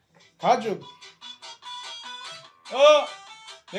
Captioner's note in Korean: 폰 벨소리